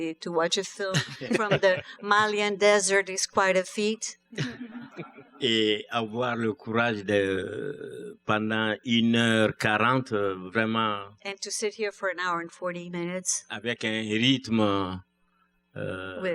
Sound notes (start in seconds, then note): 4.4 laughter; 7.2 speaking french; 14.8 speaking french